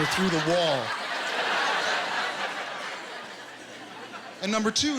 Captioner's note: laughter